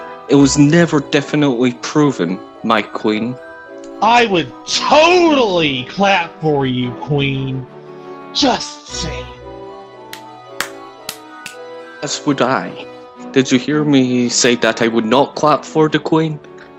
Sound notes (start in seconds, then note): 10.6 claps